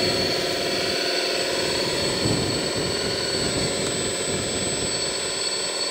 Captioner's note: roaring bulldozer engine